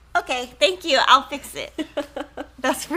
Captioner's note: laughs